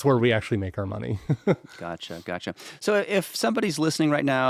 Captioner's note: chuckles